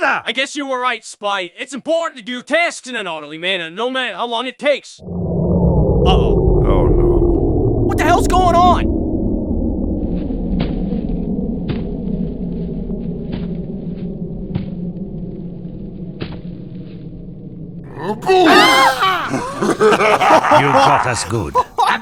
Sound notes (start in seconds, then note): 5.0 power cuts off; 10.0 footsteps; 17.8 scared noises; 17.9 laughs; 17.9 evil laughter; 21.5 laughing